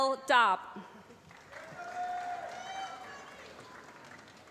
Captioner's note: applause